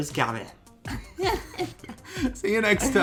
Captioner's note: both laugh